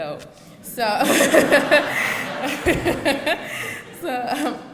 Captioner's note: audience laughs